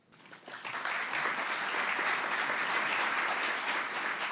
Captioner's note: audience clapping